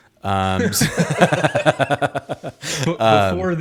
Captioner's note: both laugh